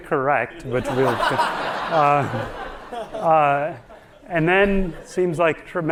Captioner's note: audience laughing